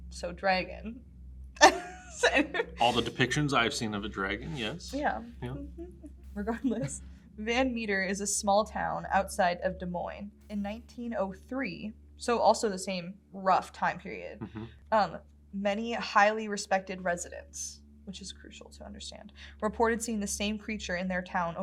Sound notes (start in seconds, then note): 1.6 laughs